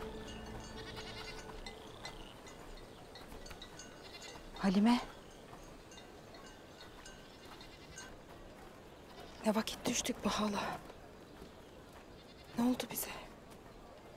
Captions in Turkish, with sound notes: (Keçi meleme sesi) Halime? Ne vakit düştük bu hale? Ne oldu bize?